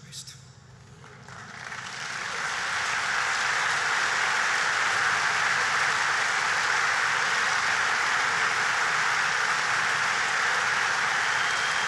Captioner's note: applause